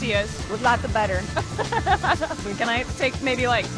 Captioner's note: laughs